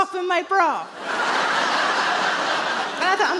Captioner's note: audience laughs